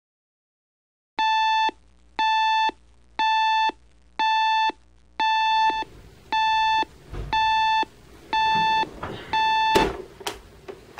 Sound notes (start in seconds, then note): 1.0 alarm Clock Beeping